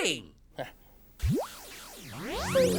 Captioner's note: electronic Noises